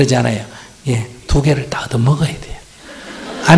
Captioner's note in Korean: 청중 웃음